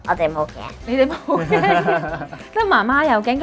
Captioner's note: laughing